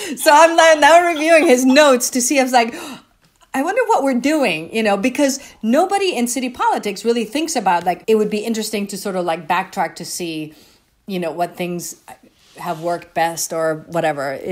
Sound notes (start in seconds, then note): 0.7 laughing; 2.7 gasps